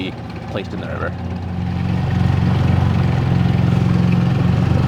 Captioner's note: motor purring